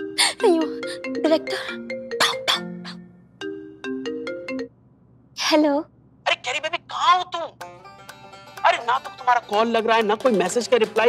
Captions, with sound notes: [phone ringing] Oh no! It's the director's call. [phone ringing] Pick it up! [phone ringing] - Hello? - Where are you Kareena? I cannot get you through calls and nor are you replying to my messages!